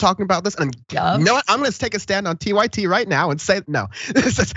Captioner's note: laugh